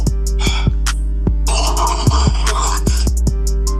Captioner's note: snorting